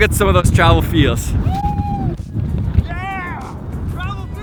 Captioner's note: man yells